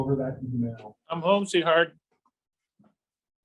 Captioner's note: pause